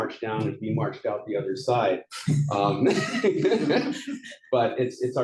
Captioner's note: laughs